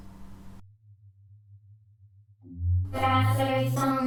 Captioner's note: hummmm!